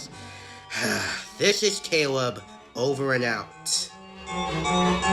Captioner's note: sighs